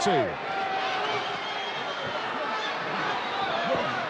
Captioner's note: crowd yelling